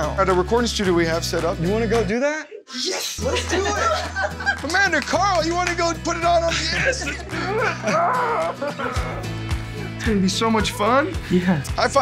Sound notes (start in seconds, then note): 8.5 laughing